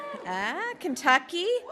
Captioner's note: cheers